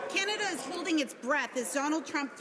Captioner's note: some Applause